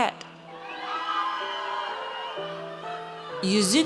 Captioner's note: audience cheers